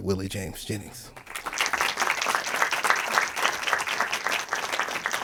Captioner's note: audience applauding